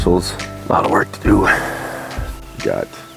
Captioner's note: sighs